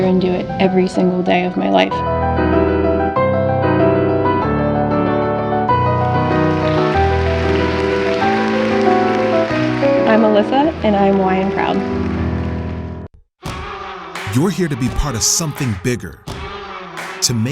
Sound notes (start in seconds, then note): 2.4 upbeat piano music; 6.3 audience applauding